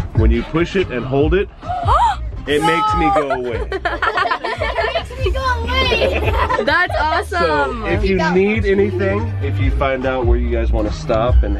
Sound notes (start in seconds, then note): 2.6 laughing; 4.0 gasps